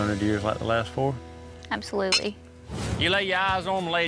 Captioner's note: glasses clink